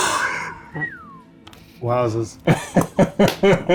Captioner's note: whistles; laughs